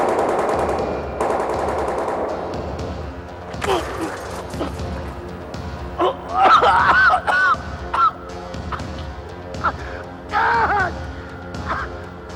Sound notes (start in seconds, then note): 0.0 gun firing; 3.6 grunting; 5.9 coughing